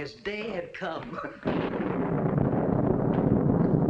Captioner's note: loud thunderclap